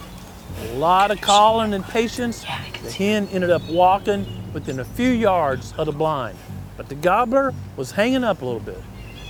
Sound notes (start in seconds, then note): 2.6 whispering